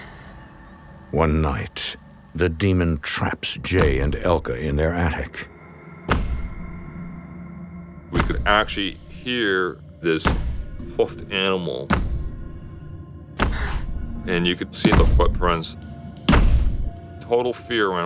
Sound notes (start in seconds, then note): 6.1 thudding